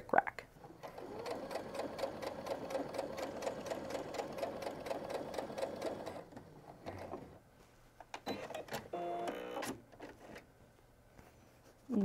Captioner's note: sewing